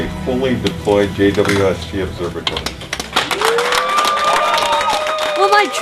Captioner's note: applause